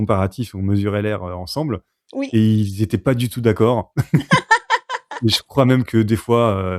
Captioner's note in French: rires